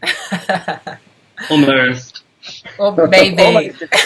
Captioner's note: laughs; laughs